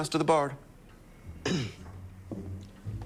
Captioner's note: clears throat